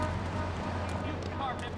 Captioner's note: muffled yelling